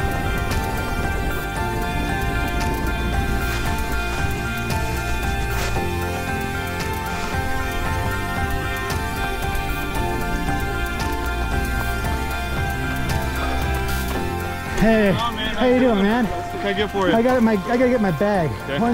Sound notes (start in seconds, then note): 4.5 snow scuffling; 9.8 footsteps pounding